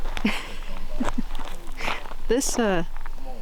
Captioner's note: laughs